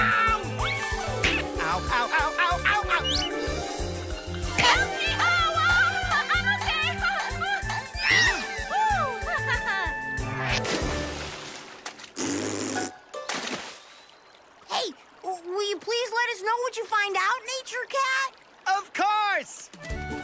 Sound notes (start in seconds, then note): 8.0 screams; 8.9 sighs and laughs; 10.7 water splashes; 12.1 blows raspberry